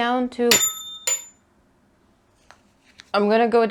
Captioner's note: needle clatters